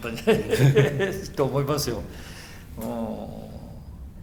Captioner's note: laughs